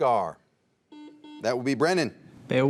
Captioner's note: buzzer dings